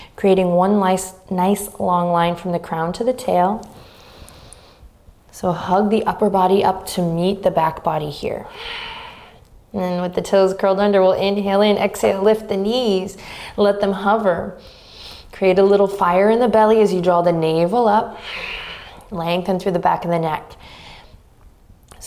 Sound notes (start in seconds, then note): 14.6 inhaling deeply; 18.1 exhaling deeply